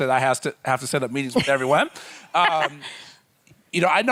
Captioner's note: laughing